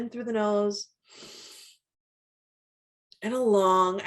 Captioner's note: inhales deeply